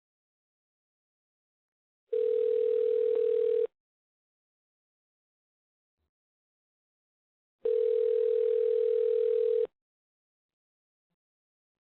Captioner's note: phone ring 2x